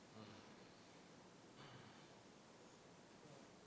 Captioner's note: people murmuring